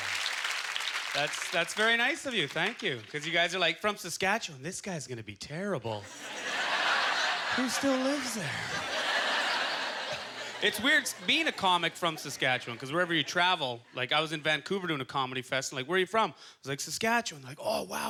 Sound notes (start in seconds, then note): 5.8 audience laughter